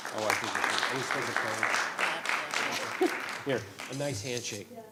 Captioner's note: audience applauding